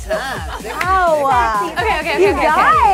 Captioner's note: overlapping chattering